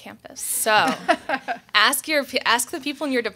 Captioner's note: panel members laughing